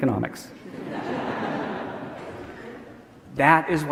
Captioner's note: audience laughing